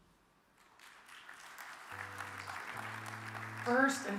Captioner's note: audience claps